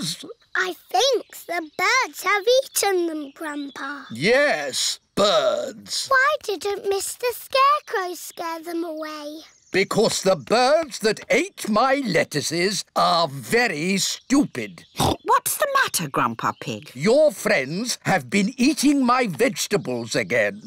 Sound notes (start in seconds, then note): 14.8 oinks